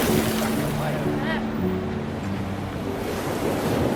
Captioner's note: ocean waves